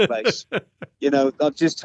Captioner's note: laughs